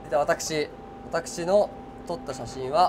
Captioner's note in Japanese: none